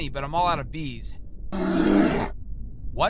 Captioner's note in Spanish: Gruñidos